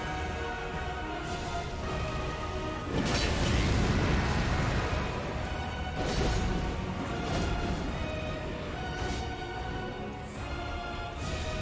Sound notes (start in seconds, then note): 0.2 intense music; 6.0 swords clanging